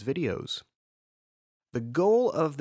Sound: pause

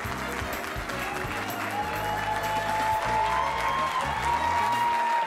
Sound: cheering

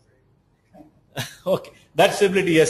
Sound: laughs

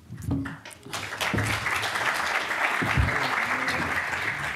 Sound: applause

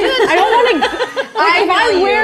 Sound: all laugh

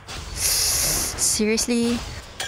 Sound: Parseltongue sound

